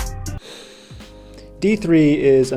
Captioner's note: sigh